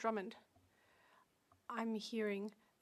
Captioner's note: speaking French